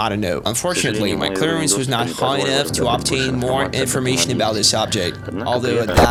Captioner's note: static